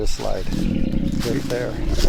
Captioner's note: grunting sound